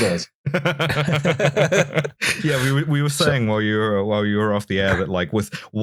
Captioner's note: laughter